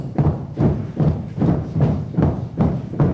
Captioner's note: crowd stomping their feet